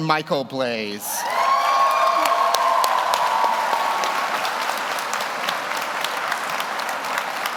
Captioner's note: audience cheers; audience applauds